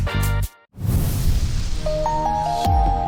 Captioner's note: sound effect